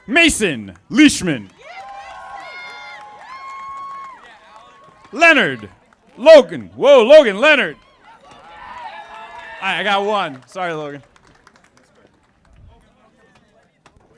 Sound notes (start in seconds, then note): 1.2 audience applauding; 7.7 audience applauding